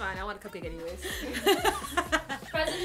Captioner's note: laughter